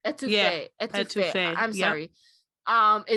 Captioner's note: none